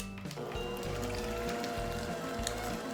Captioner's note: mixer sounds